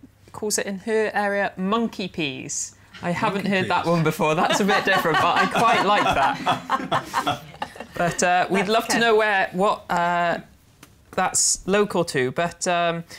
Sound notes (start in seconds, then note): 4.4 laughter